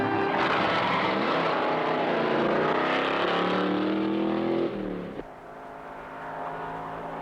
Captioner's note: tires screeching; engine revving